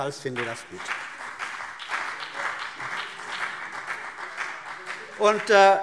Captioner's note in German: Beifall CDU und BÜNDNIS 90/DIE GRÜNEN